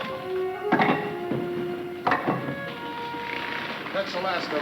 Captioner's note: ingots clattering